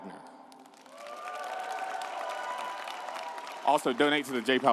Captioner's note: audience applauding and cheering